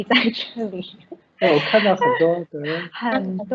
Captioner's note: Mandarin